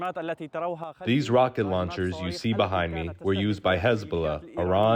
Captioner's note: through translator